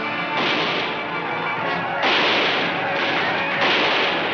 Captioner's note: gunshots firing